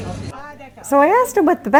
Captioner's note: chats with vendor in French